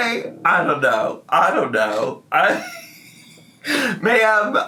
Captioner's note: laughs